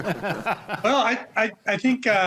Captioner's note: laughs